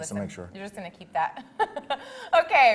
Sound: laughs

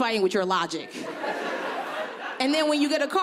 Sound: audience laughing

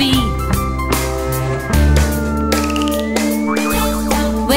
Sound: whistle! sloop! boing!

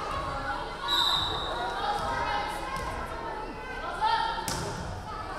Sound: referee whistling

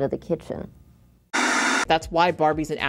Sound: white noise static plays

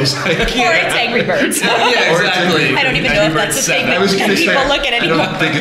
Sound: laughter

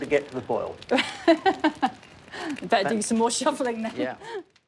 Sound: laughs

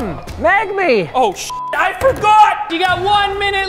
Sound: beep

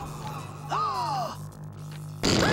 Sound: gasps; screaming

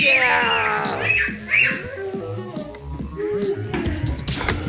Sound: girls screaming

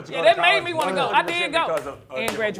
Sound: clapping

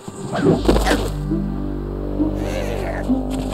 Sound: thud

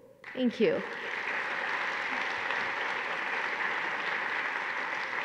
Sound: audience applauding

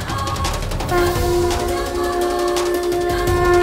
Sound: conch blowing

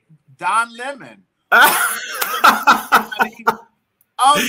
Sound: laughing

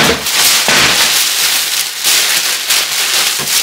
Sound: paper crinkling

